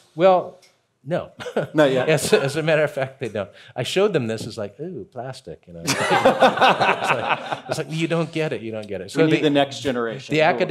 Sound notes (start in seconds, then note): 5.8 chuckling